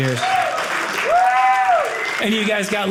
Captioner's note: audience cheering